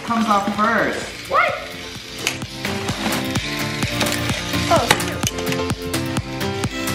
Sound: epic music; shouts of excitement

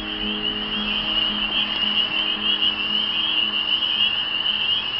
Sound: crickets chirping, frogs croaking

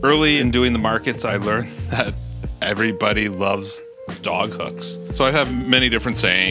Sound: laughs

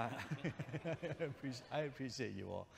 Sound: chuckles

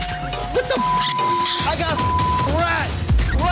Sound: squeaking

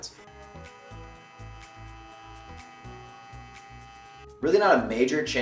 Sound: razor buzzing; gentle upbeat music

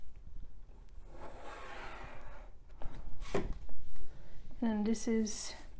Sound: sound of pencil on paper

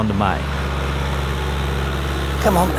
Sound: tractor sound

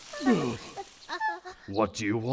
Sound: Young Namekians whimper

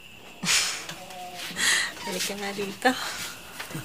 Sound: chuckles

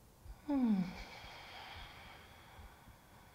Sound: sigh

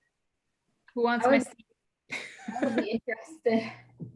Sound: laughs

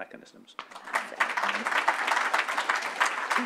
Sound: people clapping

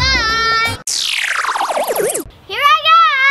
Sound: electric zapping

